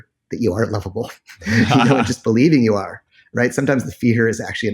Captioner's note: laughs